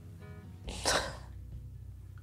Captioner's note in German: Schniefen; Schluchzen